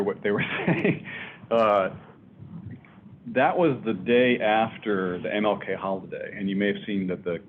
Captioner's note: laughs